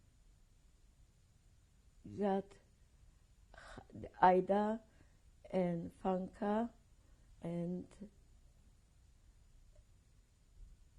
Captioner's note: pauses for 3 seconds